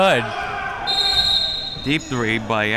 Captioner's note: whistle blowing